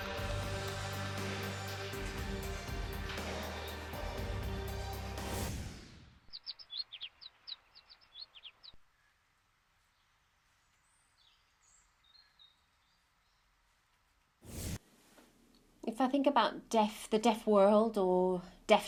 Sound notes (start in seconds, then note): 5.2 whoosh; 6.2 birds chirping